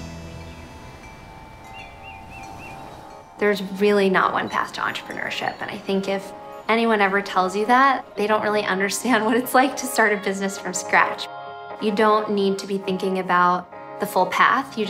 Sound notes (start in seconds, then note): 1.8 birds chirping